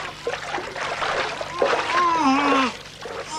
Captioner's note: gurgling; grunting